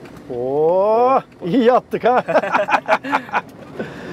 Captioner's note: laughing